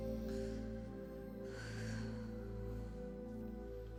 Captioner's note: sighs